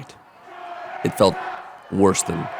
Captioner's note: cheering